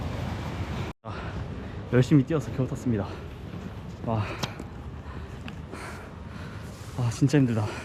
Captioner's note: train